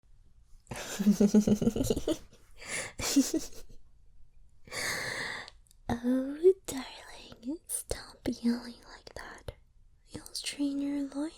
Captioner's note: creepy girl laughing